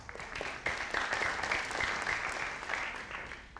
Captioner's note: audience applauding